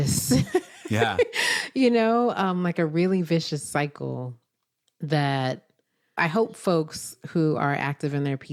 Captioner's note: laughs